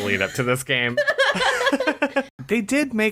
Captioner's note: laughs